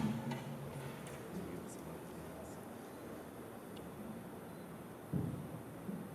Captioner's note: chatter